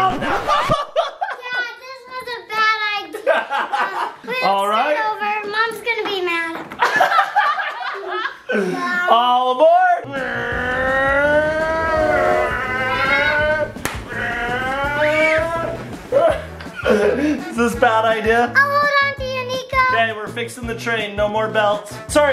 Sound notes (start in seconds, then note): 0.2 laughing; 3.6 laughing; 6.8 laughing; 12.0 train engine